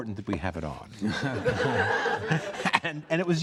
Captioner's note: audience laughs